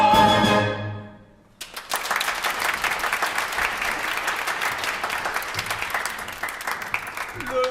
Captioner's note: applause